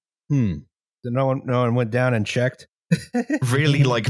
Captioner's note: laughs